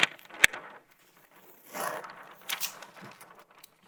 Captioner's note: paper rustling